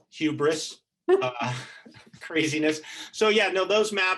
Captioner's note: both laughing